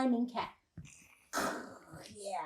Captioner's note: all hiss like cat